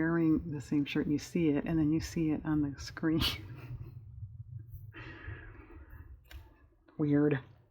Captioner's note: laughs